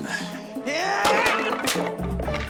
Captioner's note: yelling